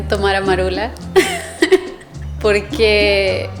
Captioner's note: laughter